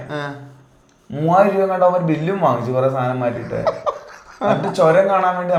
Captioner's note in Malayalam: പൊട്ടിച്ചിരി